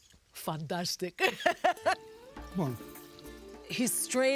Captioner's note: laughs